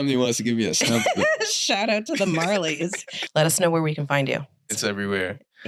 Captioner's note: laughter